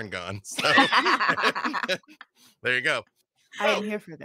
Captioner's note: group laughing